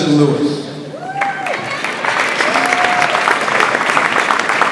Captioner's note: audience applauds